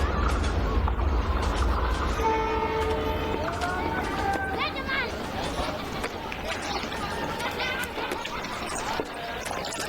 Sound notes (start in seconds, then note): 2.1 train whistle